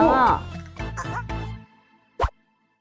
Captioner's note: haha